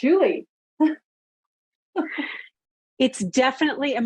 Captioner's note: laughs